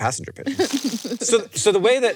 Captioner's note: chuckles